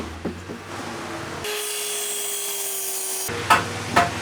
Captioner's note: sawing